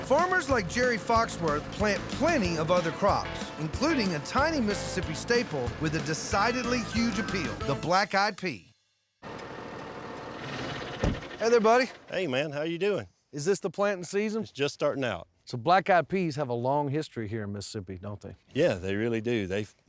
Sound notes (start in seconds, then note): 9.2 tractor engine